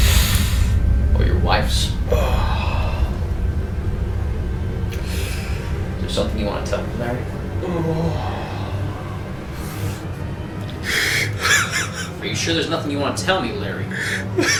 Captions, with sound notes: Or your wife's. Is there something you want to tell me, Larry? (Tense music) (Larry crying) Are you sure there's nothing you want to tell me, Larry?